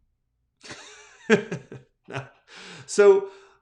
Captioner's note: laughs